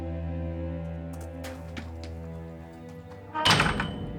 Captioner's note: footsteps thumping; gate clanging